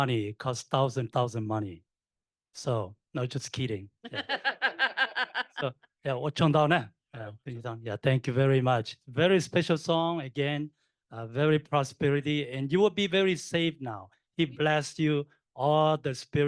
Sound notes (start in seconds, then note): 4.0 laughter; 6.1 laughing; 6.1 speaking in foreign language